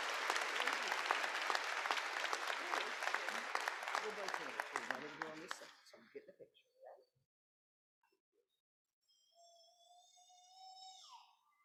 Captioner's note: applause